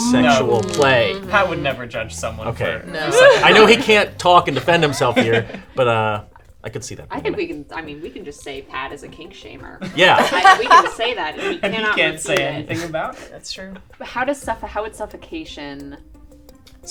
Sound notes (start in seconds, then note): 4.2 laughing